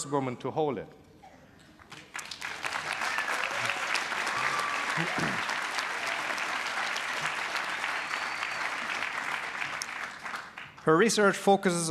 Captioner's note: cheers, applause